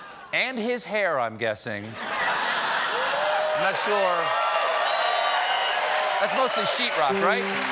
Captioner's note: cheers and applause